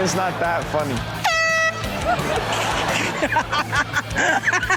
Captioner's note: air horn blaring; Chanel laughs